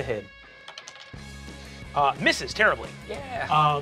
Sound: die clacks

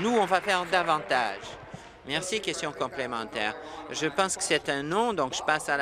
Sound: applause

